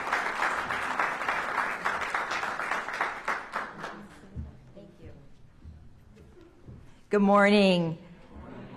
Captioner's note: applause